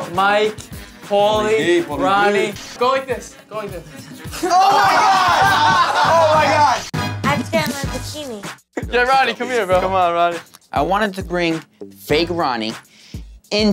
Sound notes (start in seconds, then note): 3.8 all laughing; 3.9 laughs